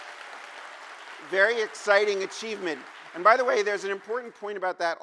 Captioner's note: cheers and applause